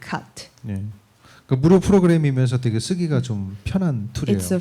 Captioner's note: speaking korean